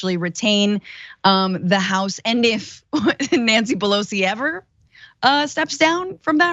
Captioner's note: laugh